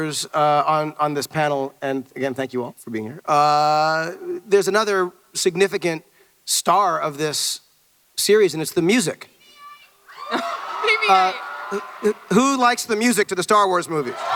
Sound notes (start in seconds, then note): 9.0 Woman in audience yells "BB-8!"